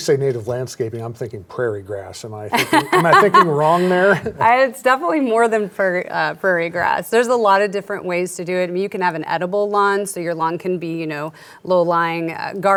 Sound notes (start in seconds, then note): 2.5 laughs